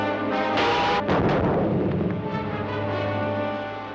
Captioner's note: booming